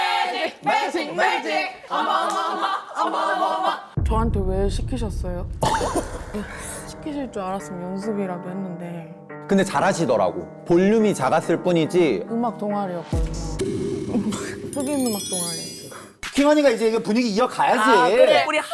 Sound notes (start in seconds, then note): 4.0 resentful sound effect